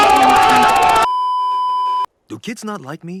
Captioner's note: beeeeeeeeeeeep